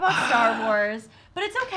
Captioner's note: groans